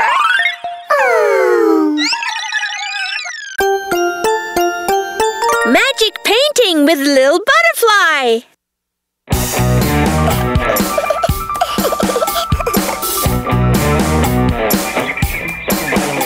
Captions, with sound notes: [all sigh] Magic painting with Lil Butterfly. [upbeat music playing]